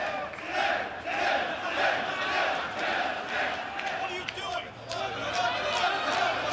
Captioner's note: fans chanting